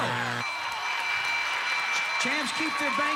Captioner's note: audience applauding